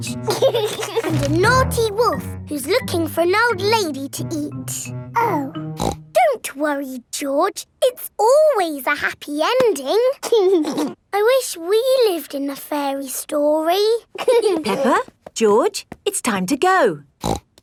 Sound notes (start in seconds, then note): 0.0 george giggles; 5.7 snorts; 10.5 giggling; 14.1 both giggling; 17.2 snorts